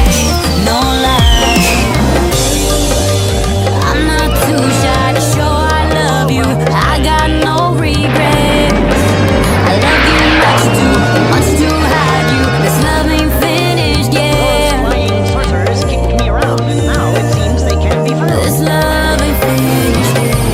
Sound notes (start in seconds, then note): 1.9 biff!